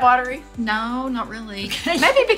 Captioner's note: laughs